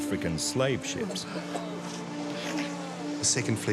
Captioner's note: men coughing